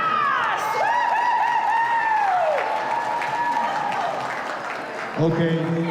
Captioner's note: crowd whoops and claps